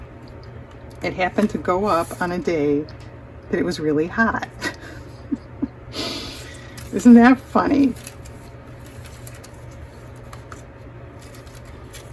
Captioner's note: laughs